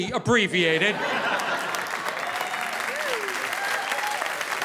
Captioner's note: audience applauding